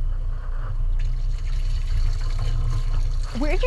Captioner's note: water dripping